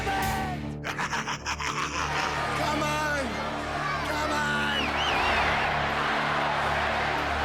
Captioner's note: applause